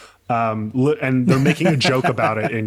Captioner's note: laughing